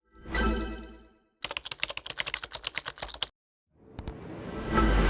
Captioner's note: dramatic Music; typewriter Clacking